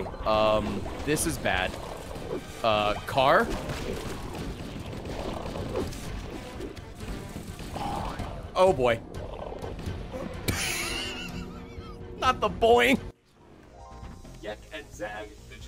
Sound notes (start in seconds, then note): 10.5 laughs